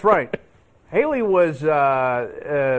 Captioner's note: laughter